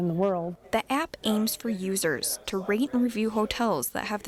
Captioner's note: voiceover